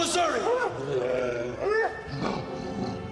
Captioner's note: growling